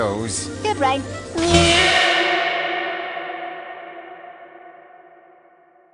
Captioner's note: Brain yelps and echoes